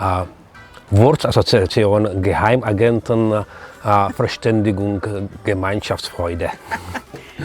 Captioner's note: speaking German